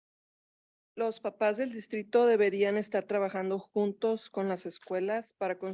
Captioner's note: speaking in Spanish